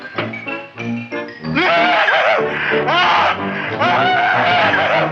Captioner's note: Wilbur screaming